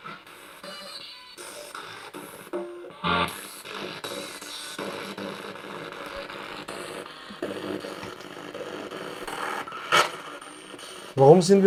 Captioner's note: sound of the Spirit Box in the background